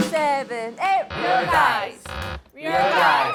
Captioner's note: his joints continue to crack; joints cracking